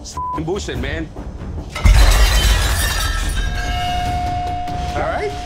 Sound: beep; plate shattering

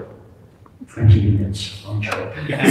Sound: laughter

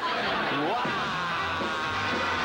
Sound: audience laughter

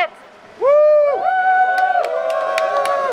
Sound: crowd cheers

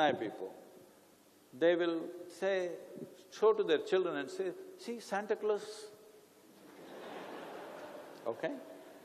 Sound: laughter

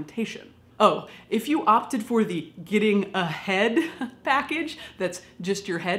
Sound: laughs

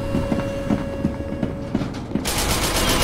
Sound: Doctor Footsteps

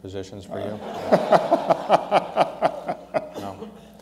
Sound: laughter

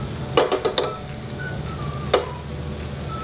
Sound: clanking

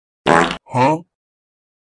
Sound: fart

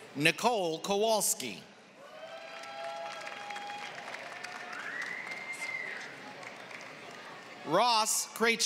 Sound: applause

